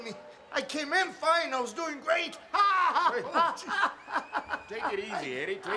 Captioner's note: yelling